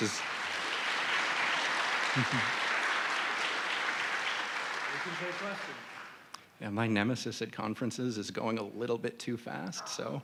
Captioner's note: applause